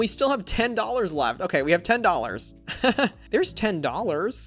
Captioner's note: laughs